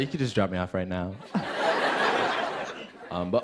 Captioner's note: laughter